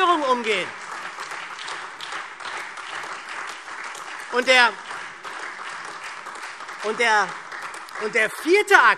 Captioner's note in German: Beifall SPD, Freie Demokraten, DIE LINKE und AfD